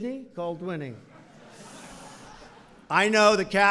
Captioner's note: laughter